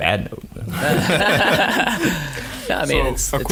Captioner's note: laughing